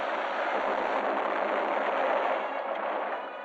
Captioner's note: explosion booming